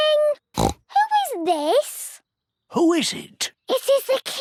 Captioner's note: snorts